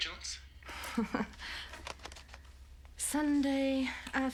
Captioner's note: laughs